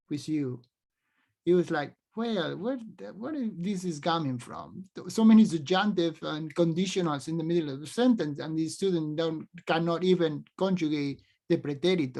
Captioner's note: speaks spanish